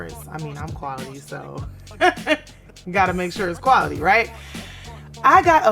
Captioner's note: laughs